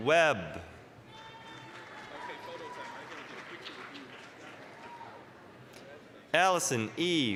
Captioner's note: applause, cheering